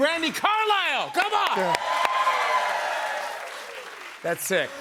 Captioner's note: cheers and applause